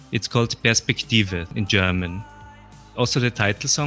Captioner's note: in German